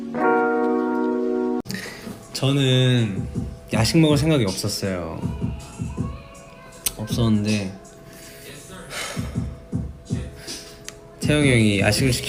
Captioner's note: moans tenderly